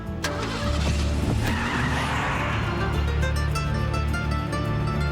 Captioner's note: tires screeching